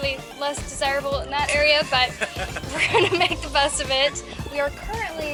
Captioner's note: laughter